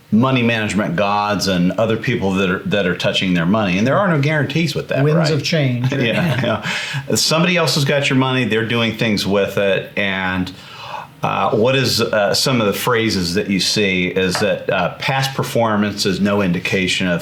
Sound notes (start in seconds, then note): 5.7 chuckles